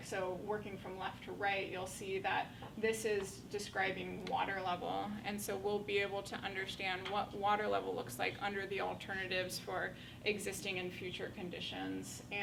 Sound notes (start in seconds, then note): none